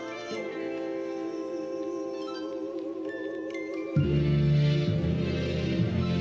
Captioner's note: voices in background